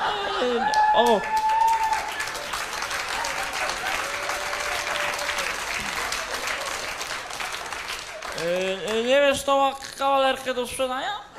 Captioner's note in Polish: Aplauz